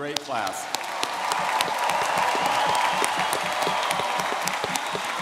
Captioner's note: all clapping and cheering